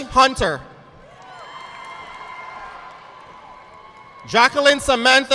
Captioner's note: audience clapping